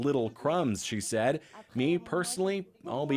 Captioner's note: speaking French